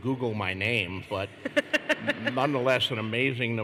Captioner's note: laughter